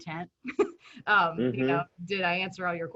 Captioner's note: chuckles